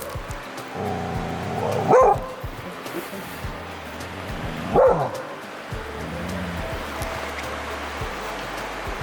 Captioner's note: growling/barking